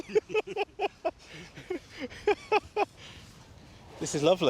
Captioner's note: both laugh